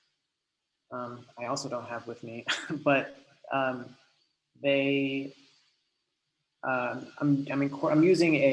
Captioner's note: laughs